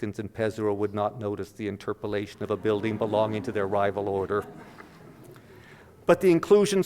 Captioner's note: audience laughter